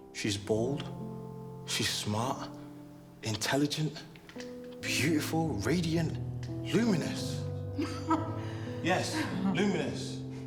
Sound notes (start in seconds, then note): 7.7 Carmen laughing